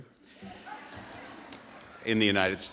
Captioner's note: audience laughing